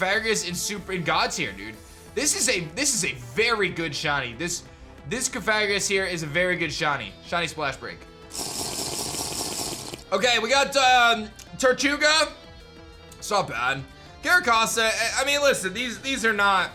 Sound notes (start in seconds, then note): 8.3 drinking sound